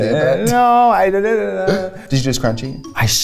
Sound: babbles

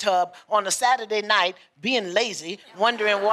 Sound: laughter

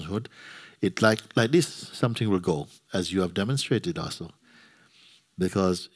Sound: snaps

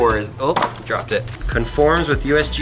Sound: drops box

